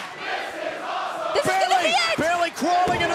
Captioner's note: fans chanting